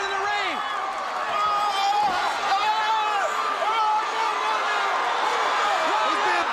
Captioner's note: crowd cheering